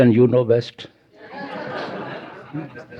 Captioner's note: laughter